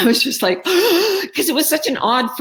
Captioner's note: gasps